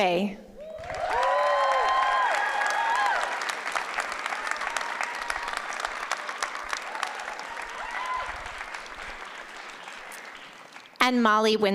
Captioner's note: applause